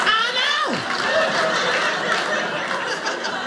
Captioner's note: audience laughing